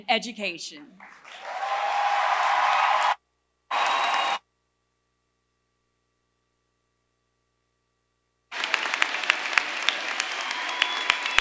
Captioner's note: applause